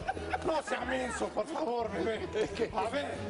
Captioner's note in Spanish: risas